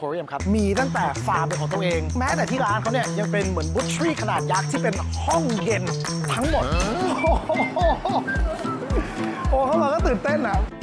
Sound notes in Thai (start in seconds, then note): 6.8 เสียงหัวเราะ